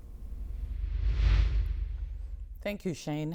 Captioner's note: air whooshing